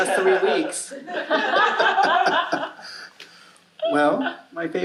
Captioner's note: audience laughing